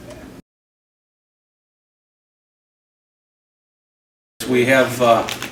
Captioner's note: silence